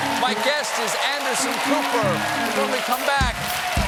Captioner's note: cheers and applause